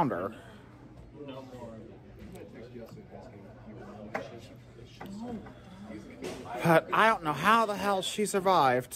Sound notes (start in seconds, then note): 0.0 Students chattering at Purdue Fort Wayne's Walb Student Union